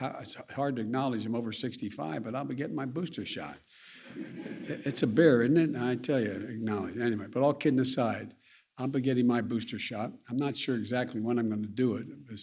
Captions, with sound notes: It's hard to acknowledge I'm over 65, but I'll be getting my booster shot. (Laughter.) It's a bear, isn't it? I tell you -- acknowledge it. Anyway. But all kidding aside, I'll be getting my booster shot. I'm not sure exactly when I'm going to do it --